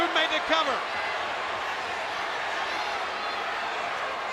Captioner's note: crowd yelling